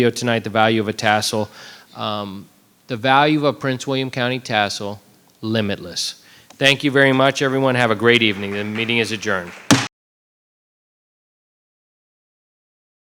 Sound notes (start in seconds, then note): 7.8 audience clapping; 9.4 gavel bangs